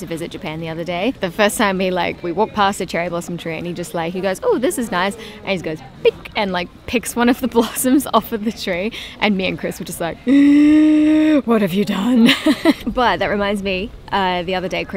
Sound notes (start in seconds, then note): 8.9 gasp